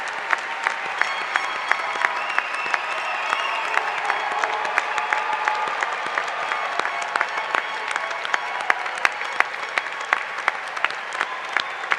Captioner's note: applause